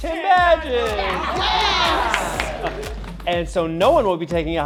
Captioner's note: campers cheering